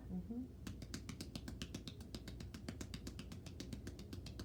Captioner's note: hands tapping